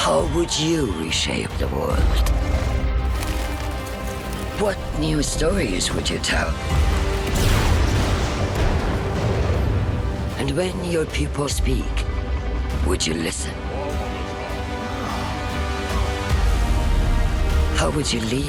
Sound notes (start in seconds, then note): 8.4 thunder crashing